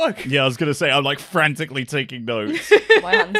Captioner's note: laughter